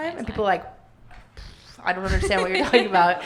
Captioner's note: making explosion noise